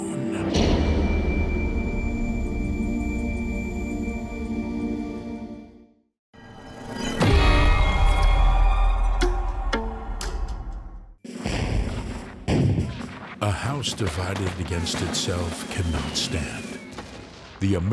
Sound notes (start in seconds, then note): 11.3 cannon fire